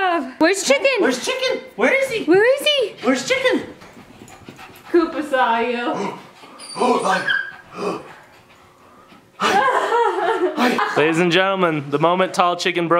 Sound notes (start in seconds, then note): 8.9 laughing